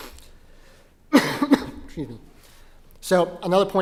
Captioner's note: cough